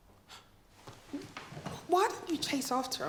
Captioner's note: Regina exhales